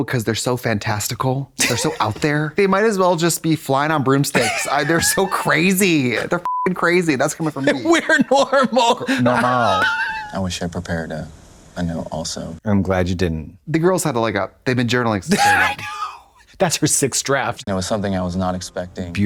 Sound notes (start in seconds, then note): 6.4 beep